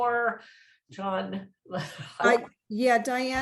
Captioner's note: chuckles